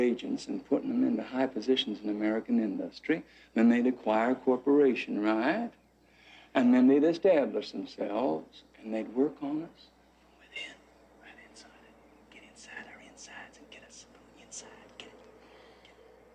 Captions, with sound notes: and putting them into high positions in American industry. Then they'd acquire a corporation, right? And then they'd establish themselves and they'd work on us (Whispering) ...from within, right inside it. Inside, get us from the inside, get it?